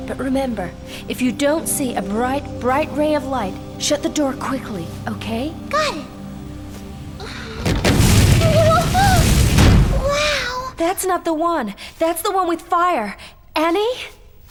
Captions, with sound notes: But remember if you don't see a bright bright ray of light, shut the door quickly, okay? - Got it. (fire roaring) - Wow. - That's not the one. That's the one with fire. Annie.